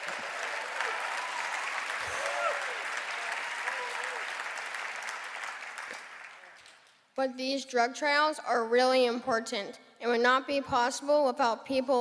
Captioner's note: cheering and applause